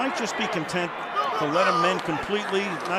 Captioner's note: cheering